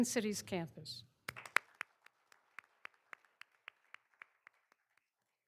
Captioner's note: all applauding